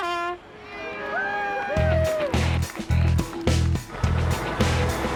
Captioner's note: crowd cheering